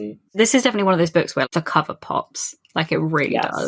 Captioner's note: none